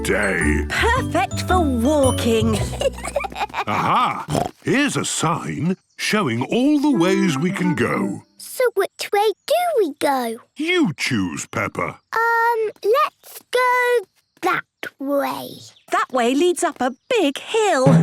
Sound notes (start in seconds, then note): 2.4 children giggling; 3.6 snorts